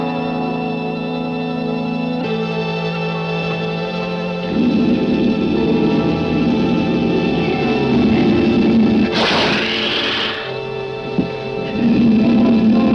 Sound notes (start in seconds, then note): 9.0 alligator hissing